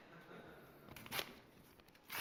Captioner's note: laughter